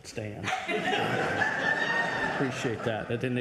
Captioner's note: audience laughs